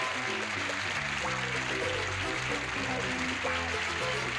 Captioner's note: applause